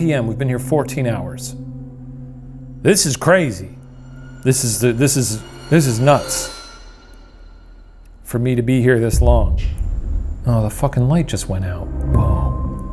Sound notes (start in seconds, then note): 4.4 stammering; 9.2 mysterious tapping